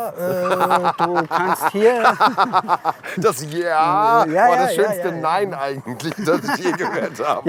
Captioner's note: laughs